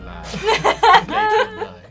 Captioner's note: laughing